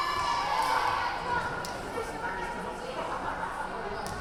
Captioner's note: yelling